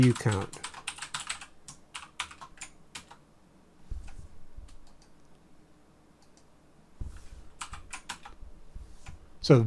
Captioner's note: typing on keyboard